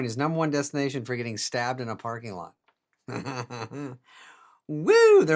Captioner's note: laughing